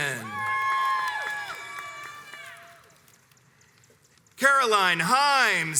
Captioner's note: crowds cheers and applauds